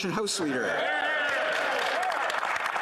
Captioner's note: applause